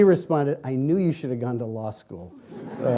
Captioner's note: laughing